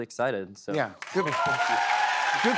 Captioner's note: cheers and applause